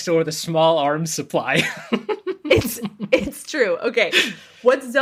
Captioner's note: laughs